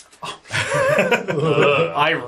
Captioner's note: laughs